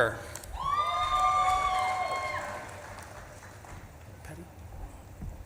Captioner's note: audience claps and cheers